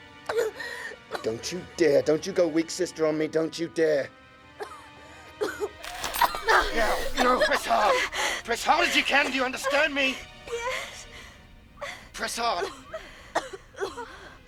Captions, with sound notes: DON'T YOU DARE. DON'T YOU GO WEAK SISTER ON ME. - DON'T YOU DARE. - [ Coughing ] [ Ripping Flesh ] THERE. NOW, PRESS HARD. PRESS HARD AS YOU CAN, DO YOU UNDERSTAND ME ? YES. PRESS HARD.